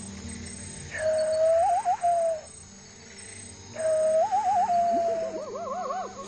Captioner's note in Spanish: Imita canto de ave; Chillidos de monos